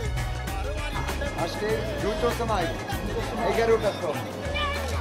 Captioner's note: Indian spoken audio